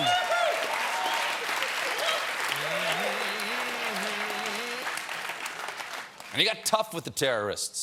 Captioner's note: applause